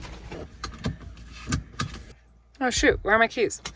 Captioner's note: door clattering; seatbelt clicking